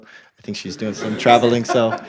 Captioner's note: laugh